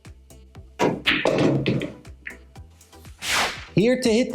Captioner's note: pool balls clacking and thudding